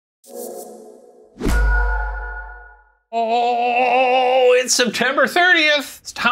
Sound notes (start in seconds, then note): 0.3 logo whooshing